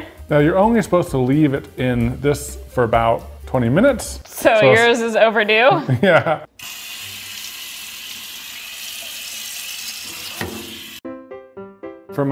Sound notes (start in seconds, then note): 6.5 tap water running